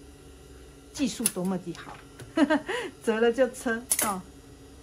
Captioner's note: he He